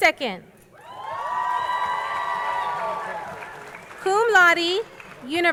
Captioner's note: crowd cheering